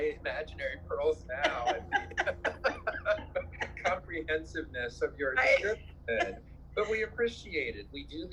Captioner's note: laughs